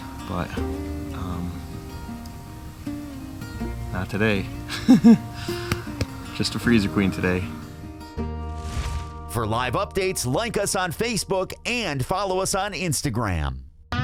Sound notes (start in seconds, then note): 4.6 laughs